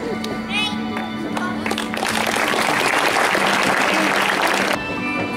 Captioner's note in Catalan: Aplaudiments